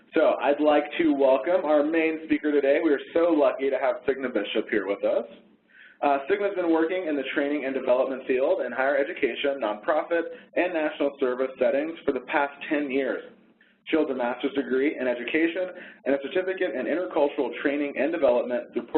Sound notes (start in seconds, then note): none